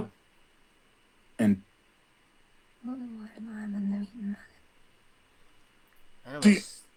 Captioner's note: whispering